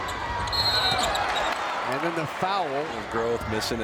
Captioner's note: whistle blows